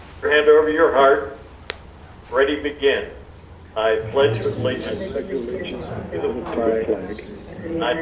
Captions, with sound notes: Bless over your heart. Ready to begin. (audience reciting)